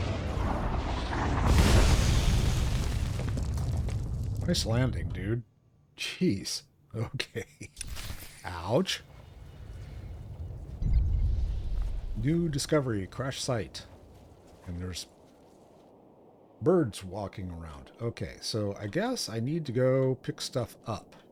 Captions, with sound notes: [explosion] Nice landing, dude. Geez. Okay. Ouch. New discovery. Crash site. And there's birds walking around. Okay, so I guess I need to go pick stuff up.